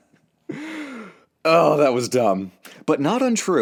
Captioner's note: breathes